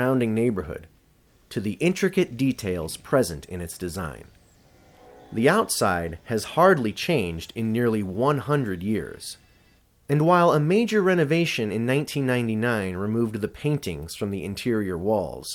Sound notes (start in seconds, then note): none